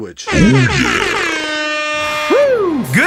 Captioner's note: dj party horn